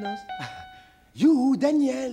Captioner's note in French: rire